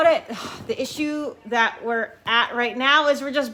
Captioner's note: sighs